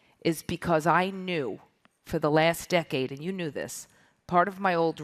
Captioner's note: none